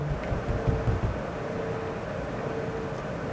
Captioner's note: banging